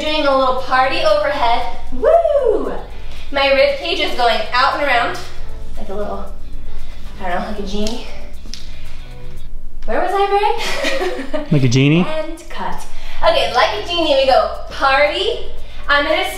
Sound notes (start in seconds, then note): 10.7 laughs